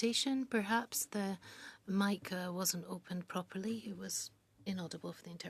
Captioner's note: speaking French